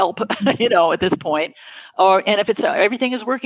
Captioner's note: laughs